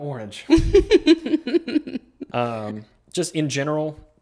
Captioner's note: laughing